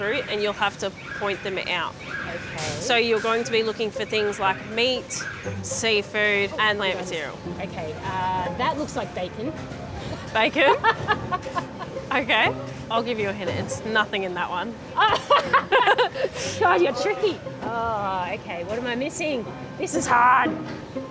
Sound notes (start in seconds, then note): 10.0 laughs; 14.9 laughs